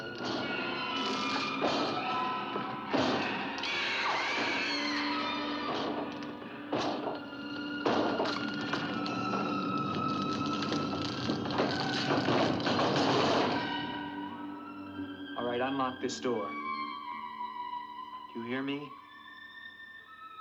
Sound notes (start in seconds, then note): 1.7 eerie inhuman noises and door banging; 3.7 inhuman screeching & door banging; 6.8 door banging & crackling